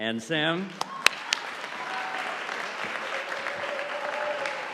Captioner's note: audience applauding